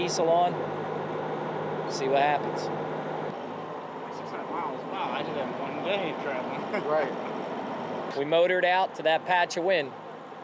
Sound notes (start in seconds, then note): 3.4 background chatter